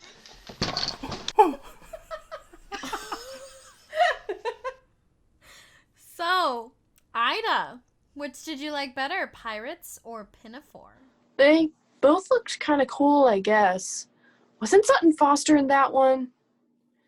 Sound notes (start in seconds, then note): 0.0 crash & clatter; 1.0 general laughter